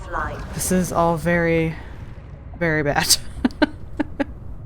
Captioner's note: laughs